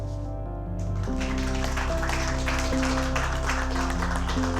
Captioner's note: students applauding